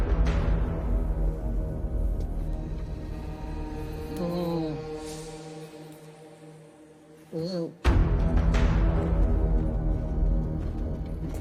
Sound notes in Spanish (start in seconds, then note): 4.4 Quejidos ahogados